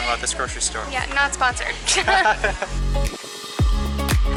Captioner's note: laughter